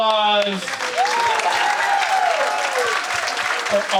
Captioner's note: audience applauding